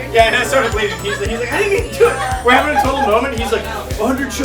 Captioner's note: group chattering